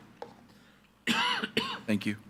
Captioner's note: attendee coughing